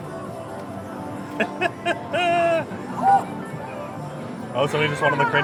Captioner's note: laughs